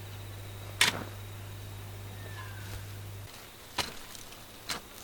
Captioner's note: spade crunches into soil